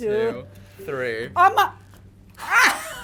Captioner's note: gasps; laughs gleefully